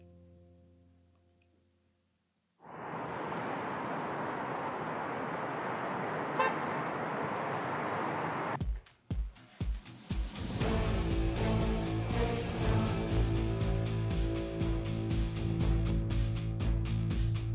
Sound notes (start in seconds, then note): 5.8 car honks; 8.4 tense upbeat music